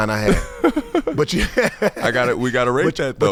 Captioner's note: laughing; laughs